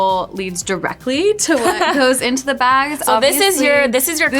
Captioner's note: laughs